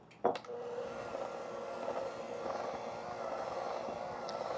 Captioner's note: mixer whirring